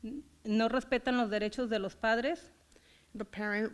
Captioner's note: foreign language